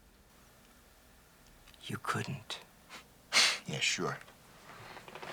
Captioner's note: scoffs